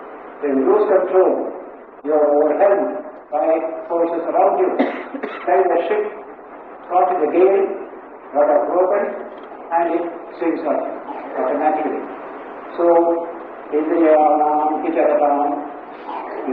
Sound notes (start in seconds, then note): 7.8 storm